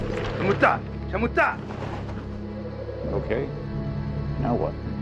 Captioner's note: speaking in foreign language